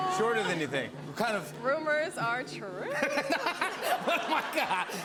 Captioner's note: laughs